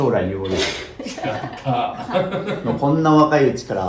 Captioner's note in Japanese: 鼻息